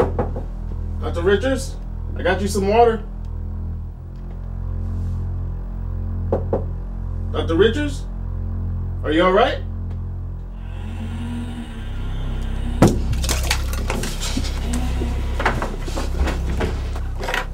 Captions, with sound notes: (knocking on the door) - Dr. Richards, I got you some water. (knocking on the door) Dr. Richards? Are you all right? (zombie growling) (ominous music)